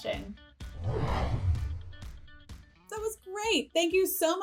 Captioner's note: logo whooshing